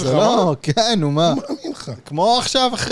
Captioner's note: laugh